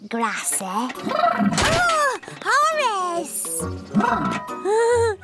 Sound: neighs

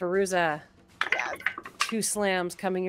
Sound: dice clatter

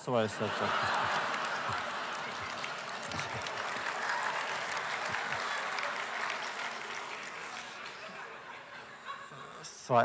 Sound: laughter; applause

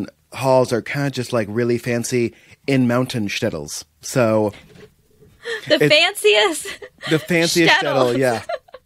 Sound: laughter

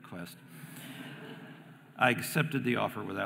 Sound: audience laughing

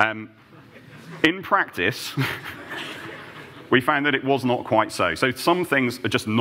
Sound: laughter

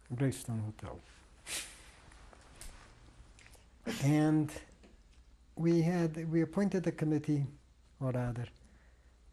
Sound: pauses for 3 seconds

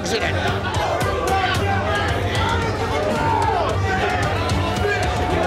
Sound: raucous chatter

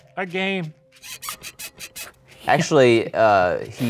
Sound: sound creaks

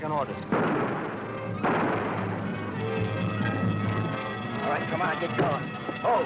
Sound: guns fires; bank alarm rings

